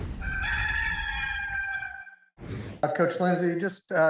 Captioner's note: rooster crowing